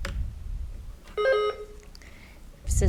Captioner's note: buzzer beeps